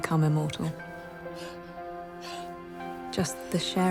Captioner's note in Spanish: Robyn jadeando